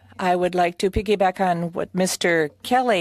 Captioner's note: speaking French